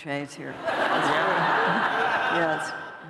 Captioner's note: laughter